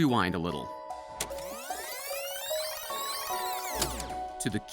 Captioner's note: rewind sound